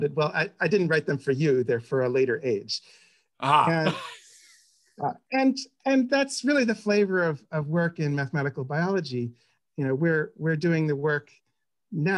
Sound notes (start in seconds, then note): 3.5 laughs